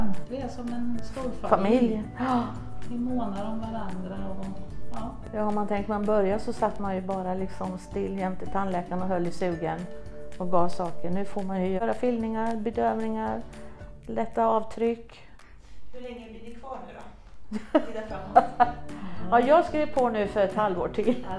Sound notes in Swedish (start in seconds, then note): 17.5 skratt